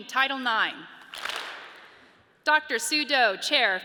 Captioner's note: audience claps